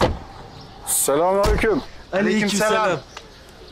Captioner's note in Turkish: Hep bir ağızdan